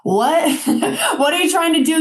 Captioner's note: chuckling